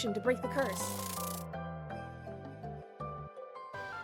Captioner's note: wings fluttering